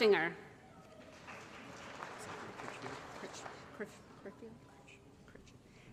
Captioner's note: applause